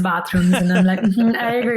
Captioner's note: laughs